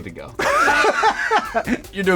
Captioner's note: laughs